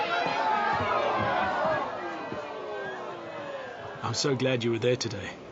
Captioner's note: crowd moans